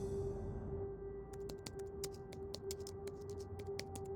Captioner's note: keyboard clicks